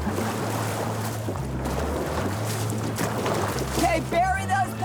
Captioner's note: water sloshing